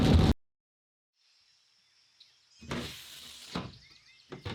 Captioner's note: birds chirping